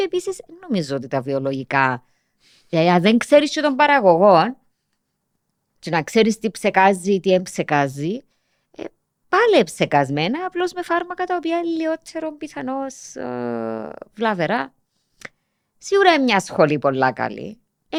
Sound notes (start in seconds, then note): none